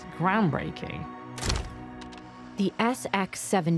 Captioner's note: shutter clicks, flash bursts, camera whirs